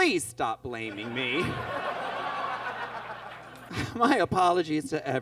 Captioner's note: audience laughs